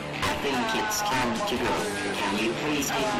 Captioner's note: voiceover